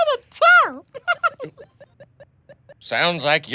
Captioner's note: giggles